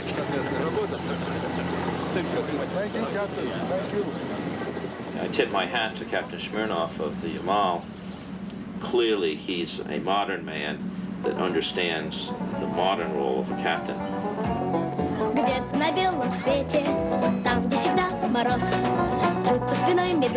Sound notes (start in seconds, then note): 1.0 speaking in Russian; 15.3 child singing energetic song in Russian